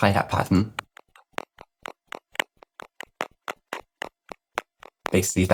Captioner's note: rhythmic clicking